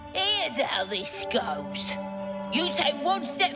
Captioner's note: none